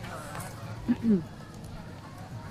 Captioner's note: clears throat